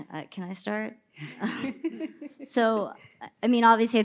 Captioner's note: hosts laughs